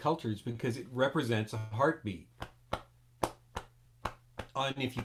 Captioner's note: beating on chest